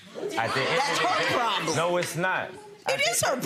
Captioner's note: audience chatter